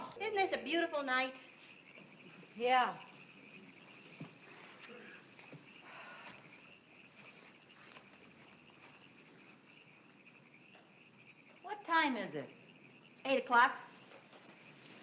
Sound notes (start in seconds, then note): 3.6 frogs croaking